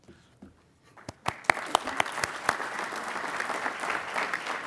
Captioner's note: applauding